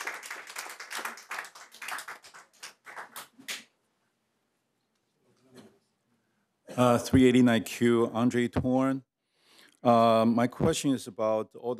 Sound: applause

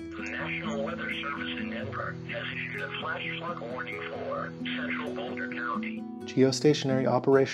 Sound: warning Audio

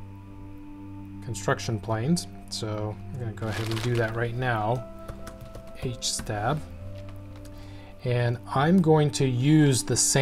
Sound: typing

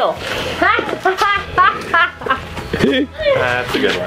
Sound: laughter

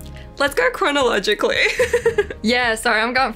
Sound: laughs

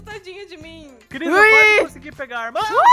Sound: grunts; cheers

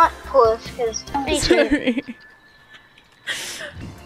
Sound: laughs

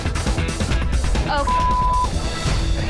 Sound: upbeat dramatic music; beeps

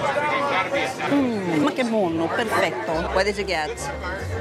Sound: in Italian

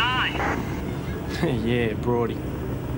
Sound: laughs

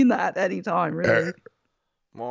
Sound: giggles; loud belch

